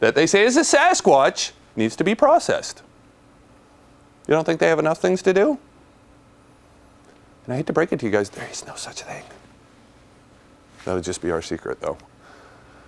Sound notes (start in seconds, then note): 9.5 whispers